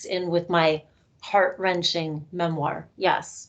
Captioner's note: none